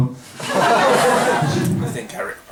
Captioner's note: laughter